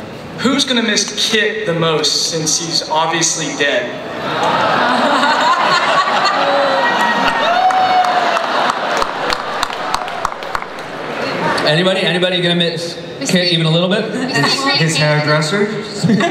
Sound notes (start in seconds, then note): 4.2 crowd bustling